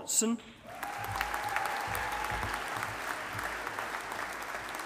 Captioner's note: audience applauding